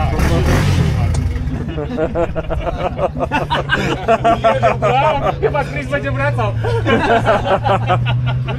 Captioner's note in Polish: śmiech